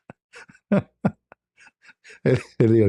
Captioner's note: ketawa